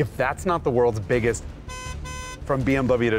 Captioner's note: honk honk